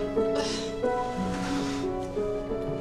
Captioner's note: grunts